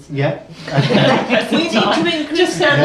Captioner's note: laughing